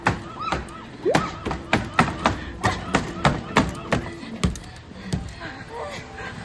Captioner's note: laughs